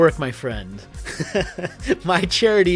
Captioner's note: chuckles